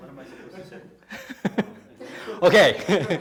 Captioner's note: laughing